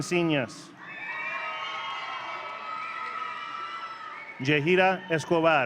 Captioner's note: audience cheering